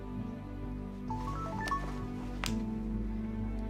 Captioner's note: phone